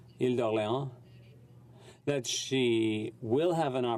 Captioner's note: speaking French